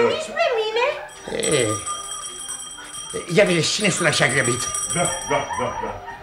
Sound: the doorbell rings

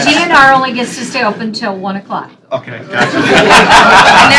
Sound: laughter

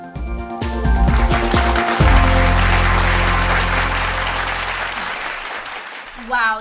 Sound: applause

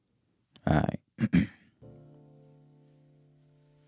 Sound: clears throat; mellow piano music

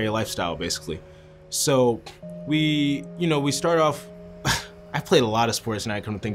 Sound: laughs

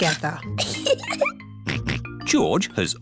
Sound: giggles; snorts

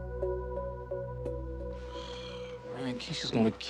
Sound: sighs

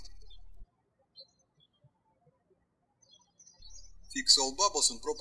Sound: birds chirping

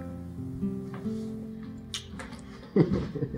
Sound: kissing

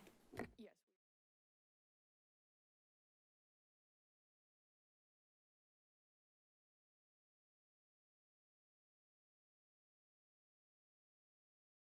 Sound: pause

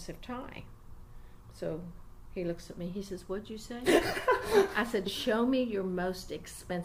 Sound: laughs loudly

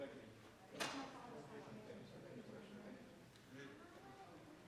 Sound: audience chattering

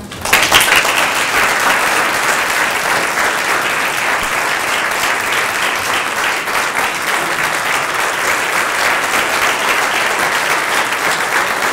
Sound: applause

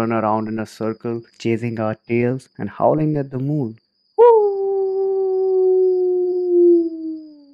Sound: makes a howling sound

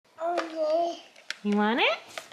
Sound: babbling

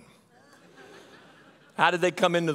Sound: audience laughing

